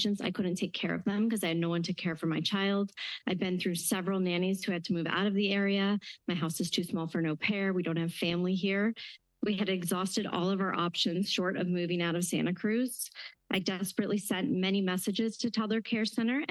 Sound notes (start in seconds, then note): none